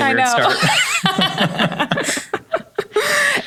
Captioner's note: laughs